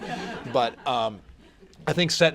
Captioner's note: laughter